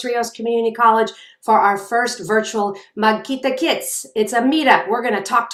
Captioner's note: speaking in a foreign language